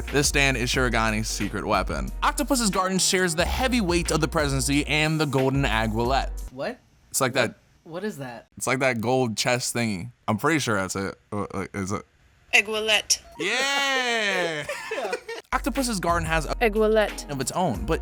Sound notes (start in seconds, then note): 13.3 people laughing